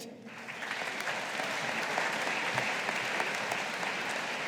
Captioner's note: audience applauding